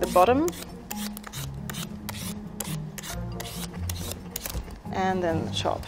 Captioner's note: peeler scraping over squash